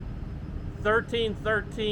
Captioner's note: wind gushing